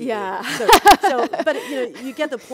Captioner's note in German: lacht